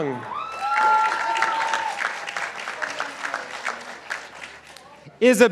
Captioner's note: participants applauding